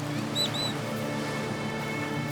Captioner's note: parrot whistles